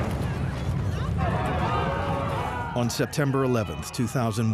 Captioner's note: clamoring